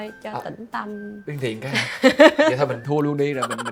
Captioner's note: laugh